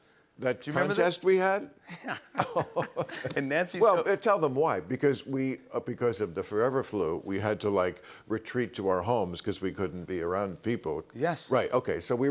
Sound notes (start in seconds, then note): 1.9 both laugh